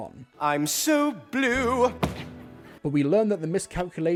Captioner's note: stomp